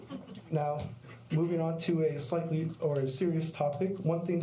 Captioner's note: laughter